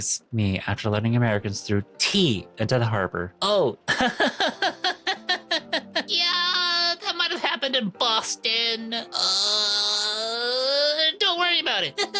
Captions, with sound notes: Me, after learning Americans threw tea into the harbor. OH! (laughing) Yeah, that might've happened in Boston. (groaning) Don't worry about it.